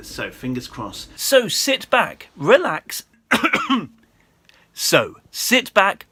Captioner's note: coughs